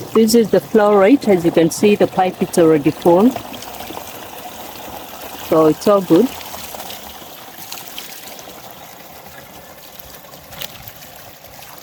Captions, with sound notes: This is the flow rate as you can see the pipe is already full. It’s all good. [sound of water flowing]